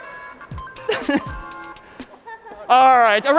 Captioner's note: dinging